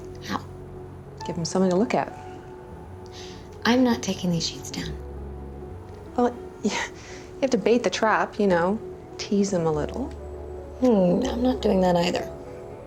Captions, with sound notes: How? Give him something to look at. I'm not taking these sheets down. Well... (SCOFFS) You have to bait the trap. You know... Tease them a little. Hmm. I'm not doing that either.